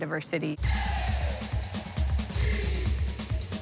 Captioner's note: crowd